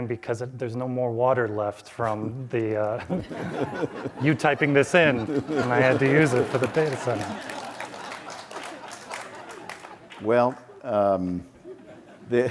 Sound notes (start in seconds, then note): 3.3 audience laughs; 8.0 audience laughs